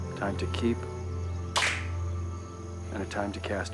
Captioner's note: men clapping